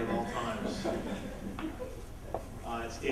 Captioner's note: laughter